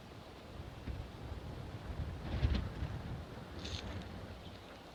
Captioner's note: wind rustling leaves